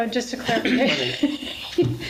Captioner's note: laughs